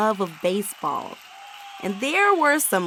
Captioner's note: audience cheering